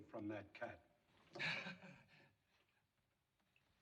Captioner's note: Kraler Chuckles